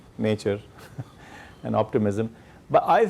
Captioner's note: laughs